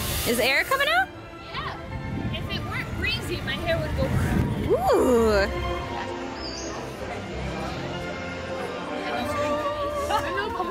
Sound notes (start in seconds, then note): 5.8 woosh